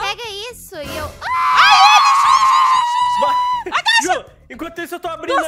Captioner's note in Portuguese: gritos